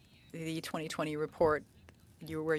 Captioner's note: speaking French